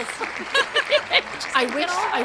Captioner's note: audience applauding